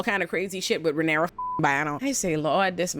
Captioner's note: beep